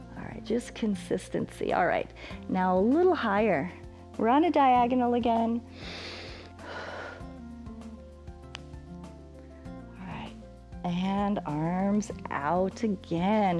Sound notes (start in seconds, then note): 5.6 inhales and exhales